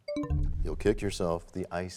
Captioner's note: bell chimes, time expires